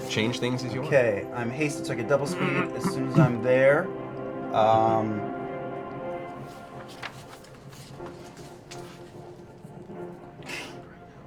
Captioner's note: whispering